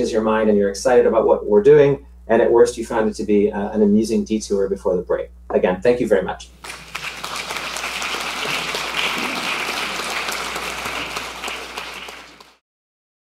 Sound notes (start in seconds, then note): 6.6 audience applauding